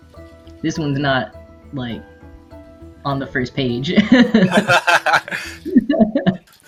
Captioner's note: laughs